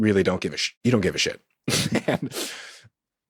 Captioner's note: laughs